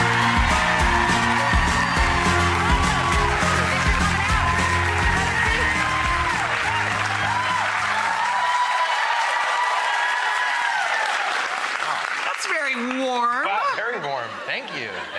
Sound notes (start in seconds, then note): 6.5 audience cheers